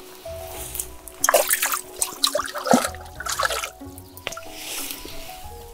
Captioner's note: water splashing